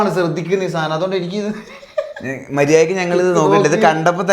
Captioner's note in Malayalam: പൊട്ടിച്ചിരി